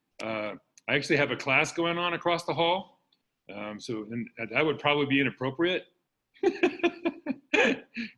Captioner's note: laughs